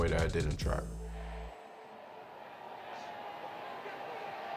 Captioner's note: fans yelling